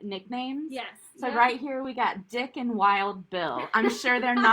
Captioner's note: laughter